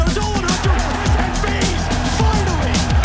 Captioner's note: crowd cheering